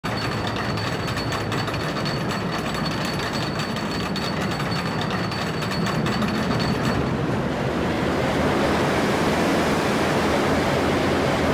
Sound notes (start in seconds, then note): 0.0 the clack of a chainlift; 4.8 roar of the rollercoaster grows in volume as it picks up speed; 10.9 rollercoaster sounds